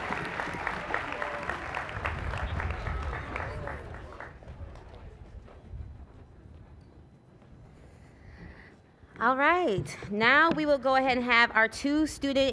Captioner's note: cheers and applause